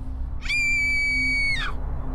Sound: scream

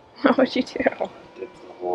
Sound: laughing

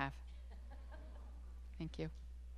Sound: students laughing

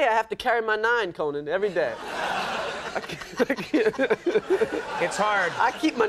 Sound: audience laughs

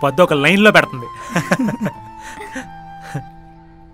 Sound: everyone chuckle

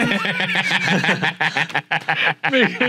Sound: laughing

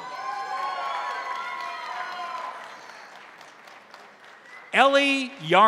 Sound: crowd cheering; crowd applauding

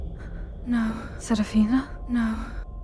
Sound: confused

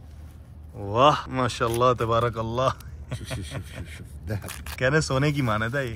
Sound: speaking Arabic

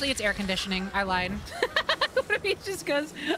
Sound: laughter

